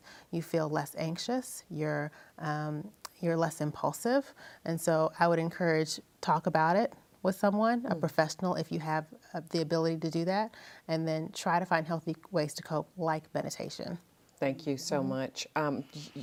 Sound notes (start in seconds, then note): none